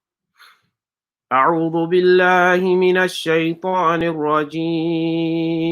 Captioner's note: praying in a foreign language